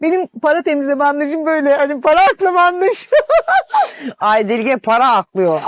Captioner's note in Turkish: kahkaha